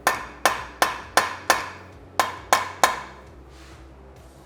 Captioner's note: hammering sound